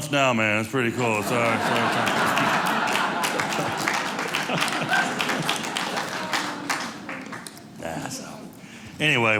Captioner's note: audience cheering